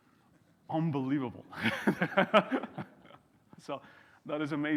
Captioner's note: laughing